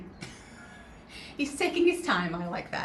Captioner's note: laughs